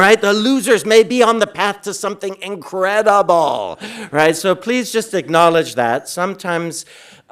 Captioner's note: none